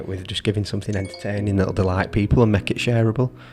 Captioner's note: phone dings